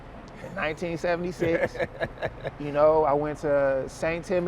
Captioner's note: laughs